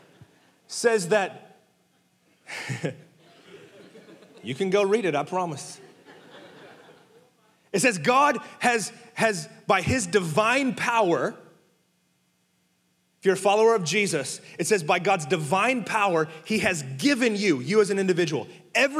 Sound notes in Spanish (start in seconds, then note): 2.5 congregación riendo; 3.2 riendo; 5.6 congregación riendo